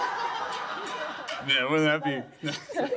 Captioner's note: laughter